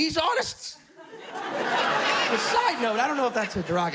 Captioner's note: laughter